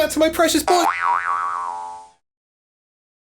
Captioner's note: cartoon Boing Sound